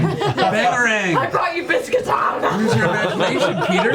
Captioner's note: eating sounds